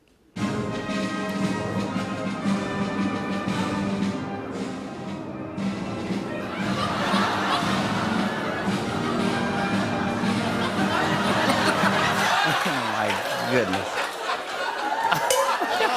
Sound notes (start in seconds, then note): 0.4 band playing; 9.5 laughter